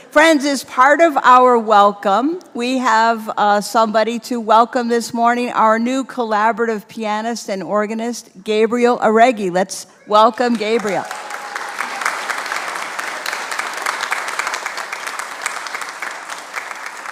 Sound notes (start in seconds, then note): 10.5 congregation applauds